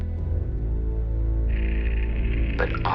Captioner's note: recorded static